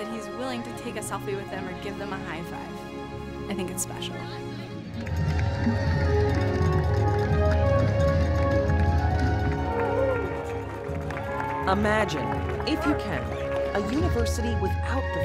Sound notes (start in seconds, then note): 7.7 crowd cheering